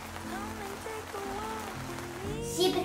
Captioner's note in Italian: Applauso